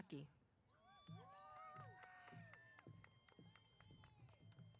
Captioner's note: applause & Cheers